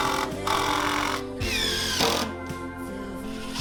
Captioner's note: drilling